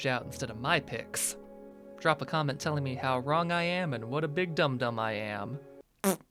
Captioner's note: blows raspberry